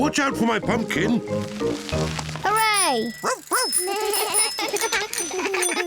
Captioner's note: all giggle